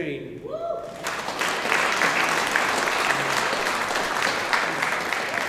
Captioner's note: audience applauding